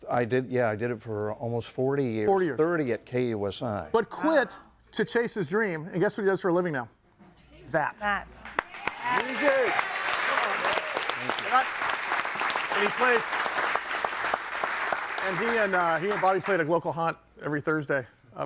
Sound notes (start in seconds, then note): 8.9 audience applauding